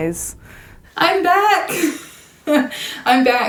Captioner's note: laughing